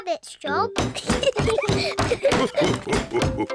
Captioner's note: laughter